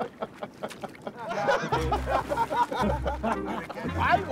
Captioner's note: all laughing